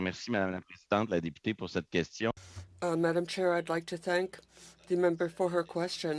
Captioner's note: speaking French